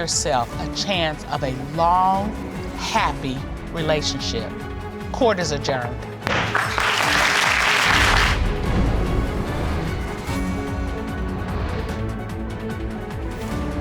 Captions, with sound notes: "Don't deny yourself a chance of a long, happy relationship." Court is adjourned. (AUDIENCE APPLAUDING) (THEME MUSIC PLAYING)